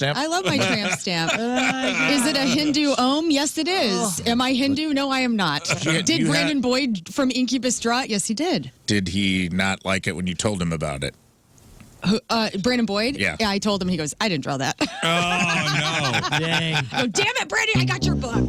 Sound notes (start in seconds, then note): 16.9 laughing